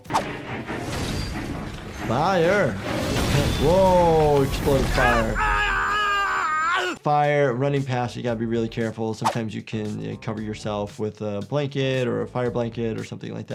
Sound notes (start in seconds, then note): 0.0 tense music; 4.8 Miles Upshur yells